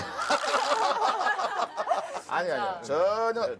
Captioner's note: ha ha ha ha ha